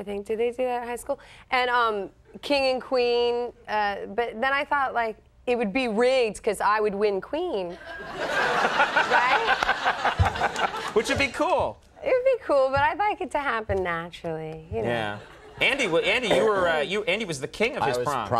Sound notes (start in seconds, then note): 7.8 audience laughs; 8.7 Conan laughs